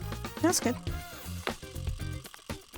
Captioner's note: lively upbeat music; refried beans plop